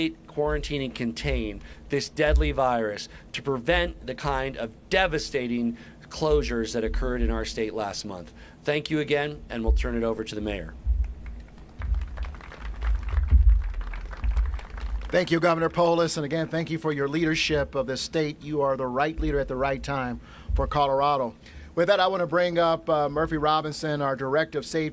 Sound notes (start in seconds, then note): 15.5 applause